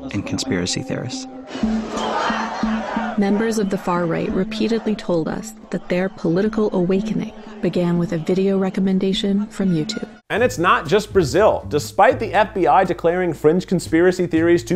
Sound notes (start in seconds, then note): 1.6 protesters shouting; 10.4 calm upbeat music